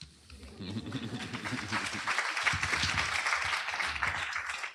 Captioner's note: applause